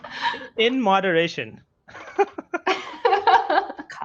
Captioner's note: laughs; laughs